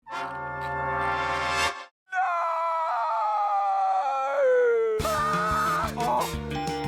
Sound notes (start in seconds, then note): 5.1 both shriek